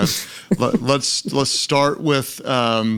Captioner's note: Lysa laughs